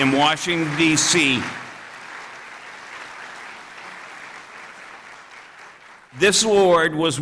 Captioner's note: applause